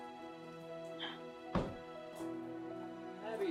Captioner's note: gentle music continues; Abby gasping